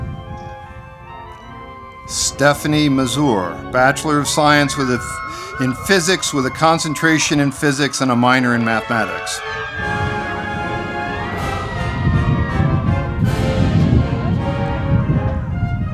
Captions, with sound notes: Stephanie Mazur, Bachelor of Science in Physics with a Concentration in Physics and a Minor in Mathematics. (audience applauding)